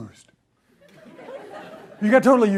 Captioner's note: audience laughs